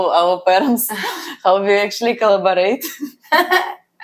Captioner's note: laughs; laughs